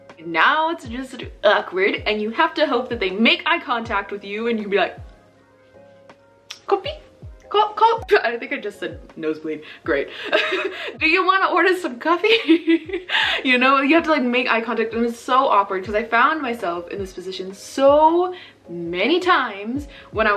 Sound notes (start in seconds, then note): 6.5 speaking Korean; 10.1 laughs